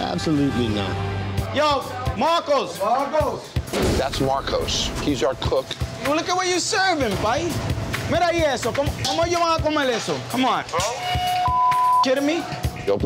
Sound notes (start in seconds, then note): 7.8 speaks foreign language; 11.2 beep